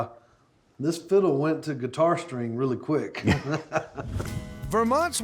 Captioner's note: laughing